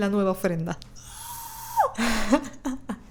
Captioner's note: little scream